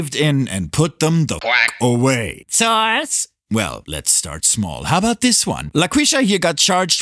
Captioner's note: quack